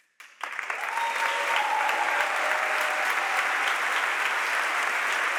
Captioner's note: audience applauds and cheers